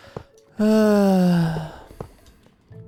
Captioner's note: sighs